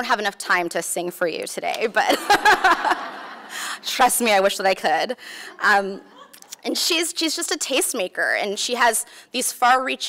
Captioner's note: laughs